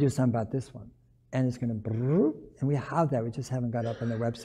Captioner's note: brrup